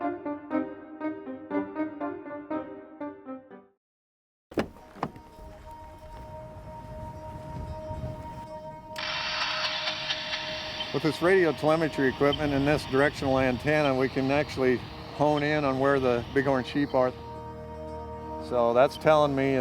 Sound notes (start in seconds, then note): 0.0 easy rock music; 5.3 suspenseful music; 9.0 radio hisses